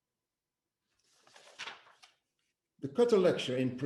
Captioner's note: paper rustling